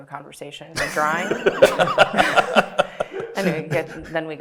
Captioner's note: everybody laughing